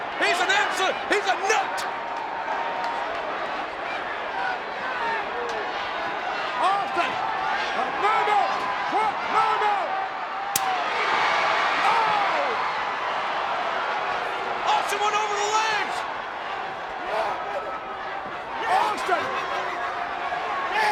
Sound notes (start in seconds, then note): 2.0 crowd yelling; 10.5 crutch thuds; 11.3 crowd cheering